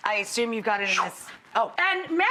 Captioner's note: making whooshing noise